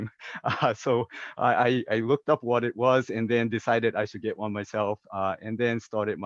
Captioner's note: laugh